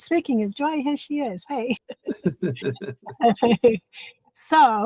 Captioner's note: laughing